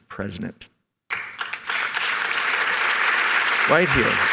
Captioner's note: applause